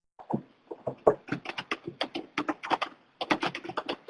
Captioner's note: typing